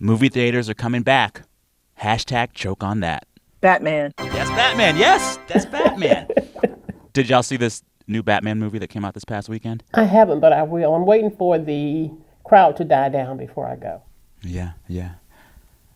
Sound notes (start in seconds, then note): 4.2 soundbite of victory tune; 5.5 laughter